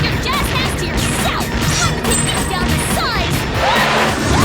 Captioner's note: crowd screaming